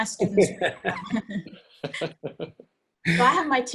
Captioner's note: laughing together